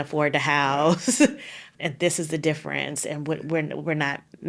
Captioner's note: laughing